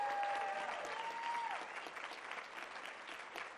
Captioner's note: applause